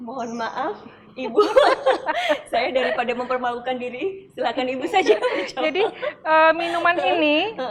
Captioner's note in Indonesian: laugh